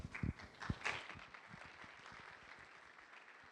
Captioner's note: applause